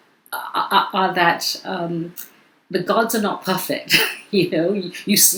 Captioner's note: chuckles